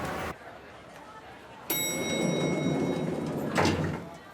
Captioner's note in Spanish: Timbre del ascensor